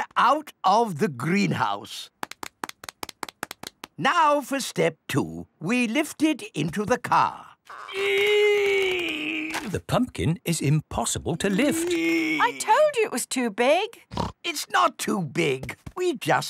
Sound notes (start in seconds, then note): 8.5 straining; 14.1 snorts